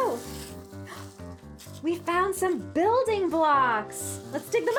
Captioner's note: gasps